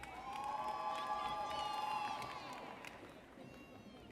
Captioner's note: audience cheers